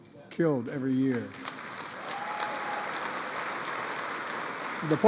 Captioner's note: applause